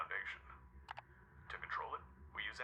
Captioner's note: clicking